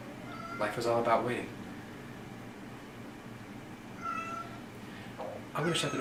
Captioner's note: Havok meowing